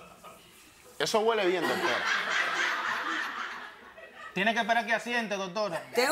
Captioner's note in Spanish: Risas